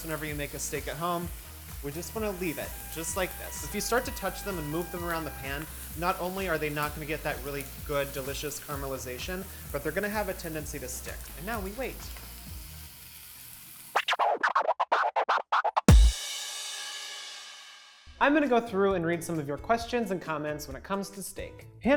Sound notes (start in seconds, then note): 12.5 pan sizzles; 13.9 record scratching